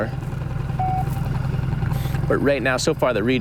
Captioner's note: magnetometer beeps